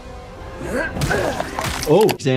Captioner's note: explosion blasting; boot stomping